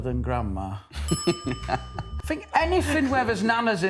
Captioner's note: laughing